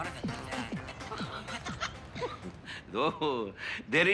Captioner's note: laughs